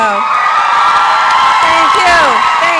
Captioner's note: applause and cheering